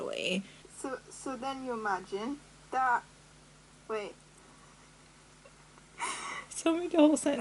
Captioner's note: laughs